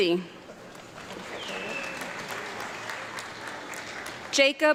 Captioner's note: audience clapping